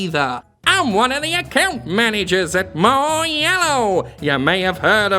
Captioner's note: high mimicking voice